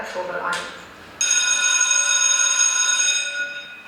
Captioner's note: school bell rings